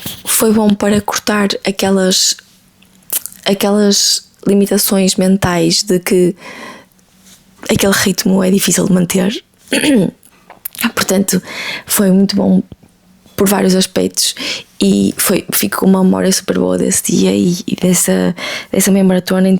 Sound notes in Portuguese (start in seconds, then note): 9.7 limpando a garganta